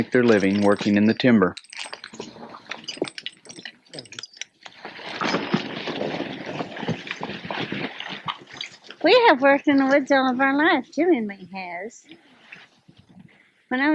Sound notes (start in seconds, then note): 1.8 splashing; 4.8 rumbling